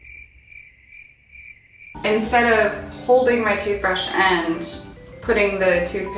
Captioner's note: crickets chirping